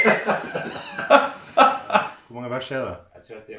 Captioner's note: laughter